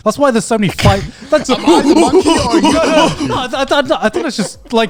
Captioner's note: yelling